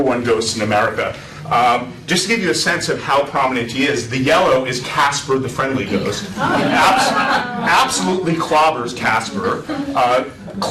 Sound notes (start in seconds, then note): 6.3 laughter